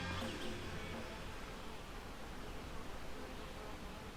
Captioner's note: birds chirp